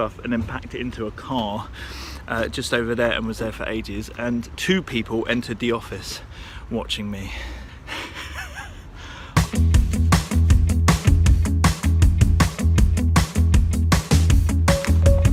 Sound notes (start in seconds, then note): 7.9 laughs; 9.4 upbeat music